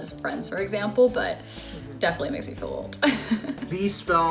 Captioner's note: laughs